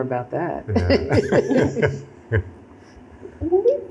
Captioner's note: laughter